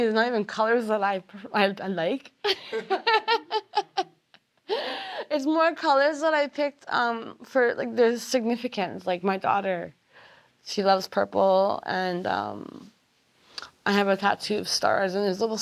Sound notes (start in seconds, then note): 2.4 laughter